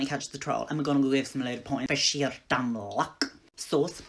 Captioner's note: As McGonagall